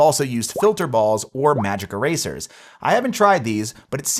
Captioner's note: graphics popping